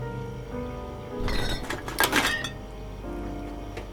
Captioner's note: clinking